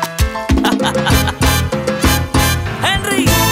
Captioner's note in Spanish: Risas